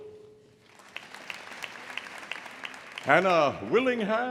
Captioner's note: audience applauding